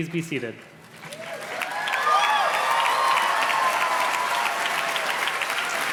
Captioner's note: audience cheers and claps